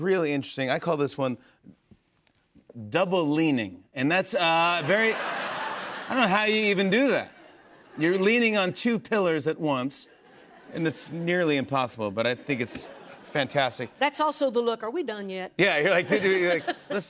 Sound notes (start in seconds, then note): 4.7 laughter